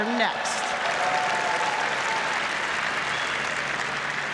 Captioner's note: applause